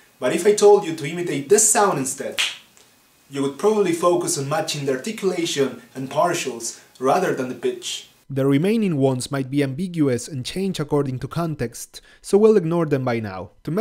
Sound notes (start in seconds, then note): 2.3 snap